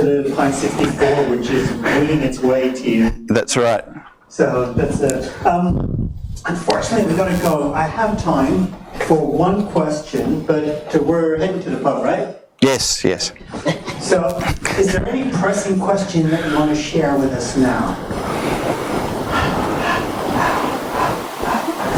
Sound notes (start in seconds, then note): 4.6 voiceover; 14.3 voiceover; 18.9 audience murmurs